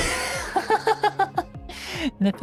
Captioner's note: laughs